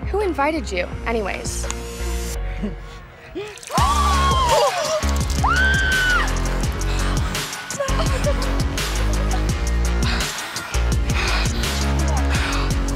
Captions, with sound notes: Who invited you, anyways? (group gasps) (Chelsea yells) - Are you okay? Let's go get you cleaned up.